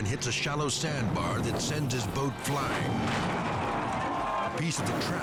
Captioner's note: people exclaiming